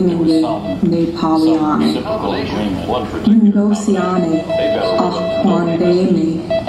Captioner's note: female voice speaking in Indigenous Myaamia language; background: short beeps; female voice speaking in Indigenous Myaamia language